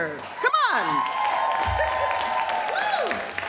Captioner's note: audience cheering